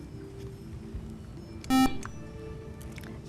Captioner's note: buzzer